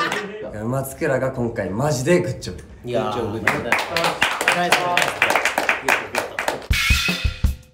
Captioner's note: claps